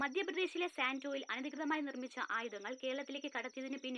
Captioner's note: TV news